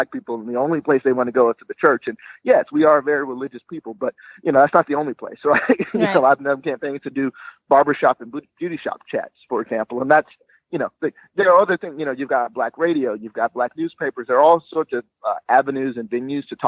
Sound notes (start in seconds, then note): 5.4 chuckling